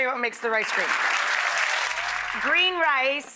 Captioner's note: audience applauds